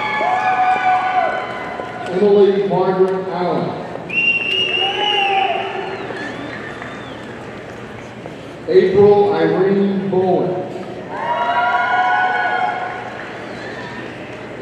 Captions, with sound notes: Emily Margaret Allyn, (audience whistling) April Irene Bowen, (audience cheering)